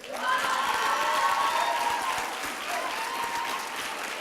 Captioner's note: applause and cheering